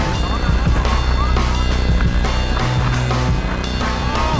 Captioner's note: drone sounding